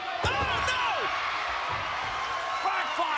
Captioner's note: spectators cheering